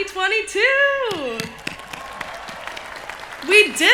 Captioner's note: cheering